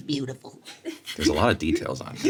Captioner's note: Sarah and Richard laughing